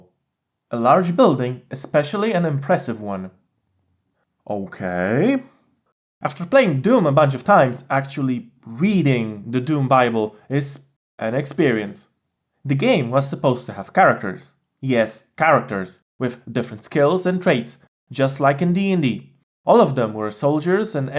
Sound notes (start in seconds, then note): 10.3 hesitates